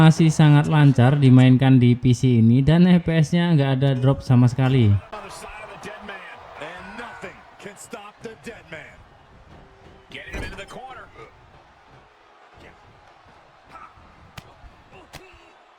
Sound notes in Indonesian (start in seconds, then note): 4.9 Suara dari game